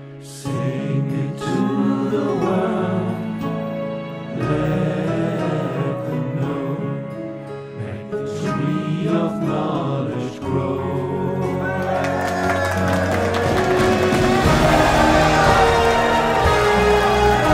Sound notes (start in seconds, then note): 11.6 everyone cheers; 14.4 epic orchestral music; 17.0 applause; 17.0 epic orchestral music